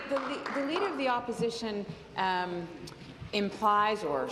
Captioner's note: applause